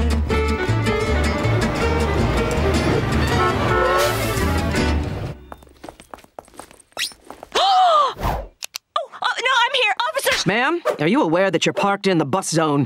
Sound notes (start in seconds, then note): 2.8 honking; 7.4 gasping